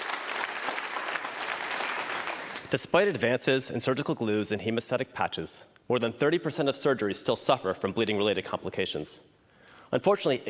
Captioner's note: applause